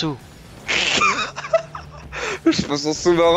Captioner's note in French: rires